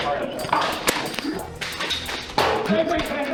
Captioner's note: battle sounds continue